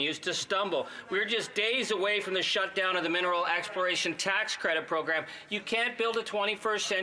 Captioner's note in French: voix de l'interprète